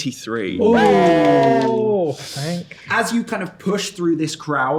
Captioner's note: players cheer